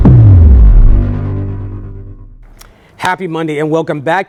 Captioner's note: loud electronic whooshing